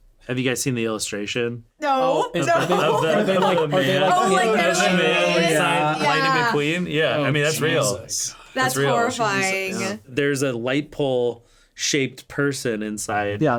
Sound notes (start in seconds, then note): 2.5 laughs; 3.8 overlapping chatter